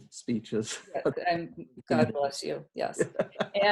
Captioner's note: laughs; laugh